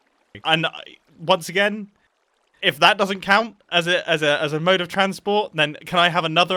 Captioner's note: none